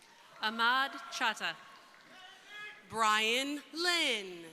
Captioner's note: crowd cheering